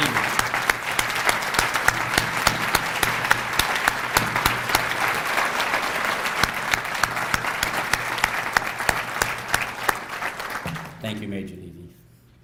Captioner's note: applause